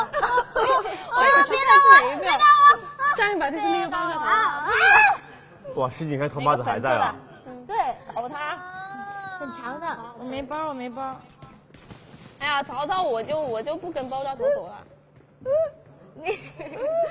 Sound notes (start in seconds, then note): 1.5 screaming